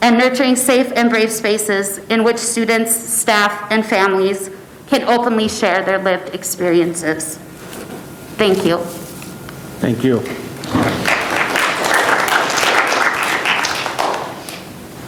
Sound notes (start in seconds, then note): 10.6 audience applauding